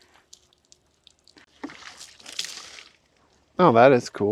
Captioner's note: water sloshing